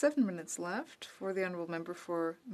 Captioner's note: speaking French